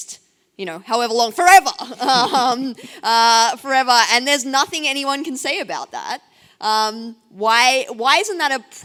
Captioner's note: laughs